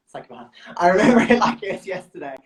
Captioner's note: chuckles